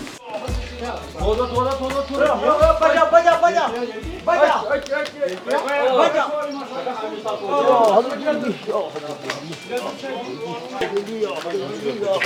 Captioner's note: kashmiri Language